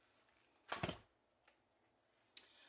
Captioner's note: whump